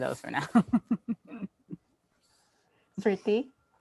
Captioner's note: laughing